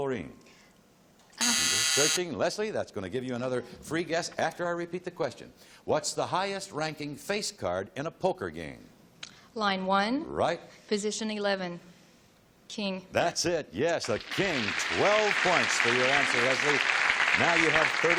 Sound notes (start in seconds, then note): 1.4 buzz